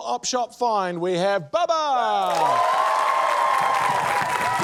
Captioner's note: cheering, applause